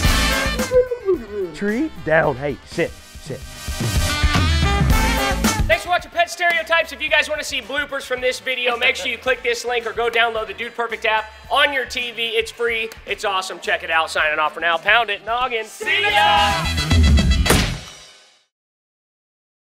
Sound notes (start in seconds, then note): 15.9 jazz music; 17.4 thud